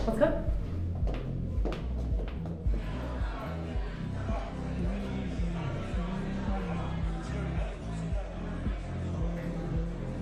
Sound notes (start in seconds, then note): 1.4 crowd chattering; 2.8 soft upbeat music